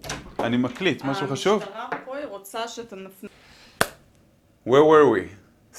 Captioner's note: speaking in foreign language